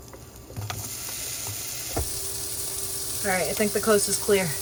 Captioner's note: food sizzling